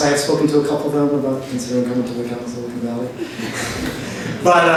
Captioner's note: voice is muffled